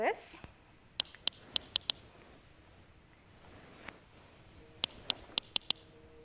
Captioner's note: clicking